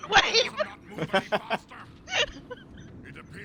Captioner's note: laughs